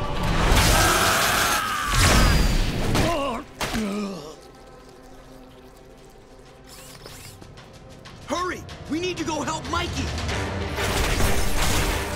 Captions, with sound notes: [screaming] [groaning] Hurry, we need to go help Mikey!